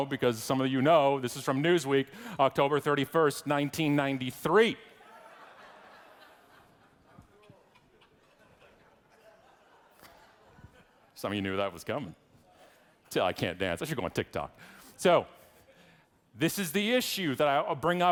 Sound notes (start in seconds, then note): 5.0 audience laughing